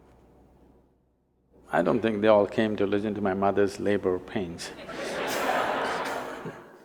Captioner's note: laughter